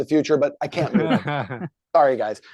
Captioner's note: laughing